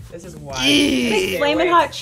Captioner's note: grunts